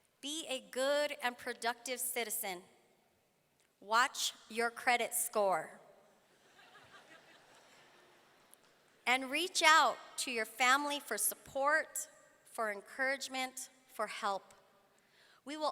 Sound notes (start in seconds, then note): 6.4 audience laughing